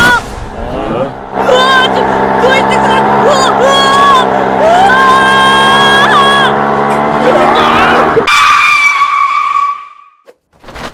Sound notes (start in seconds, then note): 4.5 motorcycle engine roaring; 8.2 tyres screeching